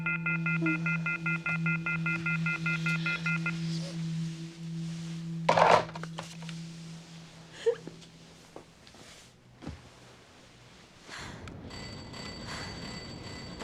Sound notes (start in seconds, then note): 0.0 beeping; 7.5 sobbing; 11.5 kerry panting; 11.6 ringing